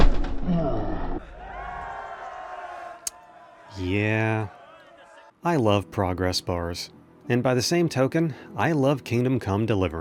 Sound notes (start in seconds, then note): 3.0 lip smack